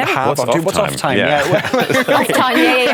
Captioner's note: laughter